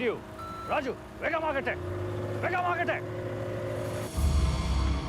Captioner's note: speaking foreign language; dramatic music